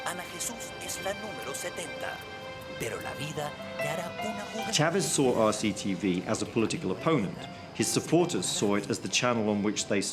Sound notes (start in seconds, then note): 1.6 speaking in Spanish